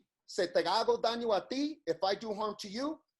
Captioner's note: speaks in foreign language